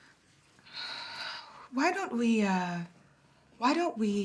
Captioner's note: sighs